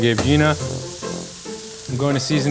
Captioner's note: burger sizzling